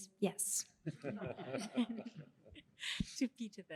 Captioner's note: laughter